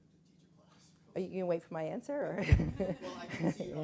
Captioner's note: chuckles